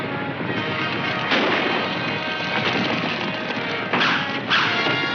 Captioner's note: gunshots firing